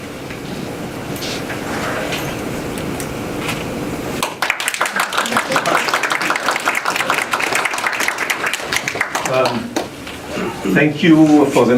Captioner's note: applause